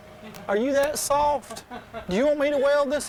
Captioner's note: laughs